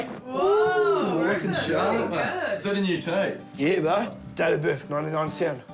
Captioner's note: all cheer